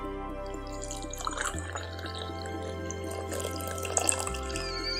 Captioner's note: coffee pouring; kettle whistling